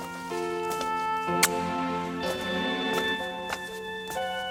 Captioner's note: smooch